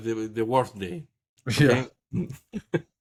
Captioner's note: laugh